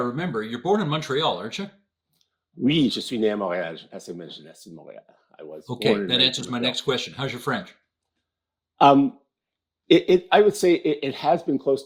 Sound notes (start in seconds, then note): 6.9 speaking in french